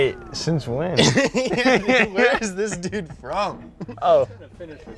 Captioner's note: laughing